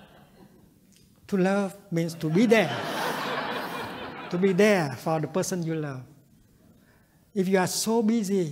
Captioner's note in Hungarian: nevetés